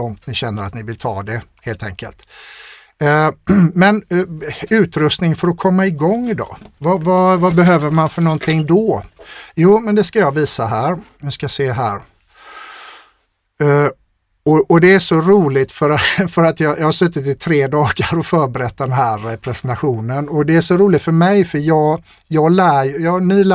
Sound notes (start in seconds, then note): 3.4 clears throat; 12.9 scoffs